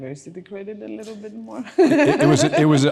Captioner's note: laughing